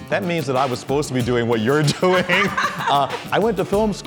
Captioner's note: laughter